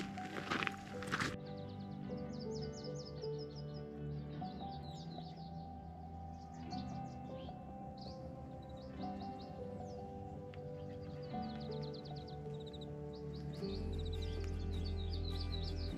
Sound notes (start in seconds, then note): 0.0 soft music; 5.7 birds chirping